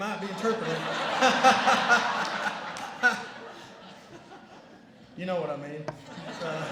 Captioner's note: laughter